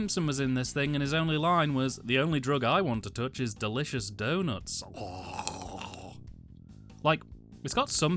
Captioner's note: drool noise